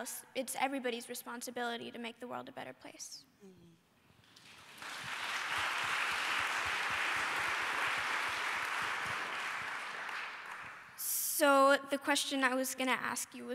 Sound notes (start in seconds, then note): 4.2 applause